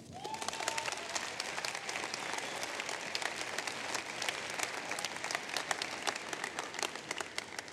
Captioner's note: applause